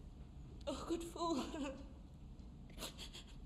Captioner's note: sobbing quietly